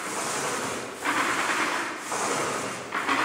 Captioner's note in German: Wiederholtes Rattern